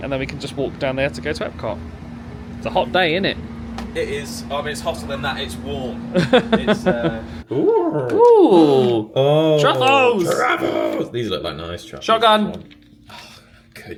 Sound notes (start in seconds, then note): 6.1 laughs; 7.7 both exclaim excitedly